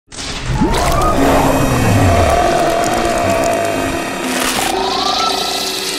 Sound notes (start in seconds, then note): 0.6 growling